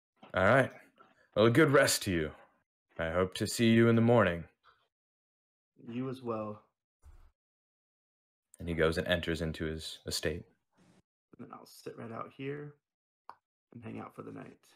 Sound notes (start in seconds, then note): none